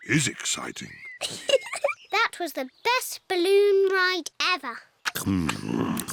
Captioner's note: giggles